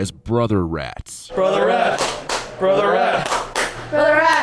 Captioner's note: clapping